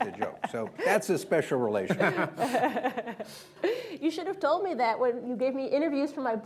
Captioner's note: laughter